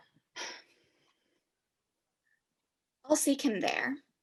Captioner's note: sighs